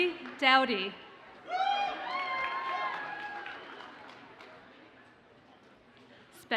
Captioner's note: audience cheers and applauds